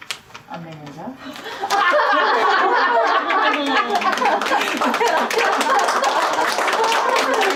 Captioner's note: laughter & applause